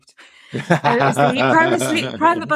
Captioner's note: laughing